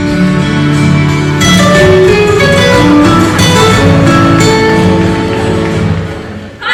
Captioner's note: Nokia ringtone starts playing